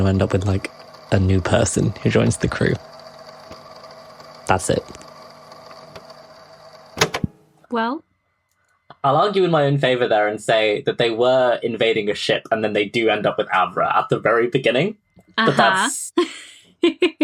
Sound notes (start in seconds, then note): 7.6 tape recorder clicks off; 16.5 laughs